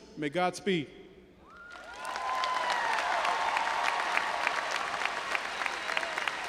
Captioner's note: audience applauding and cheering